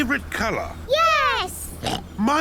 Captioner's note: oinks